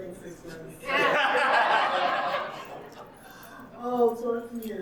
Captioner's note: audience laughing